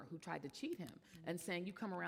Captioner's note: none